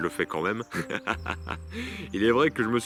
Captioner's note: laughs